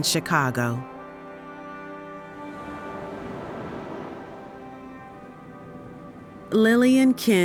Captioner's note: soft serene music; waves crashing